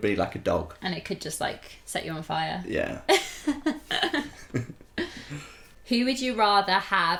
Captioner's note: laughter